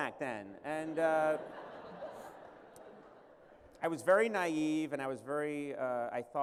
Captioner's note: laughter